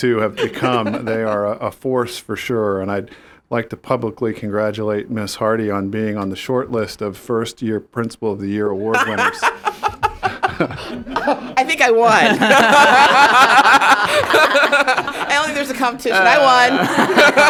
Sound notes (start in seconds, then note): 12.0 laughter